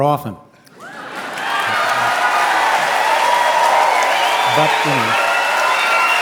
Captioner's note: audience cheering